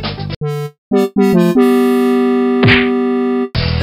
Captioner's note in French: Bruitages